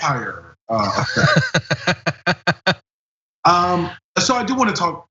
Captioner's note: laugh